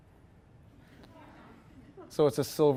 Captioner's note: audience chuckling